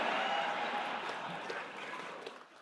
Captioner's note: laughter